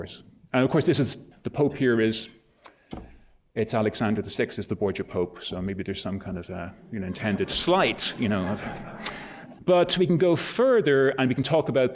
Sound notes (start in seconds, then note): 8.9 laughter